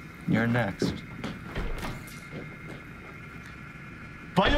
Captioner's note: footsteps moving away